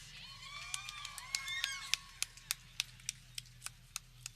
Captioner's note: people cheering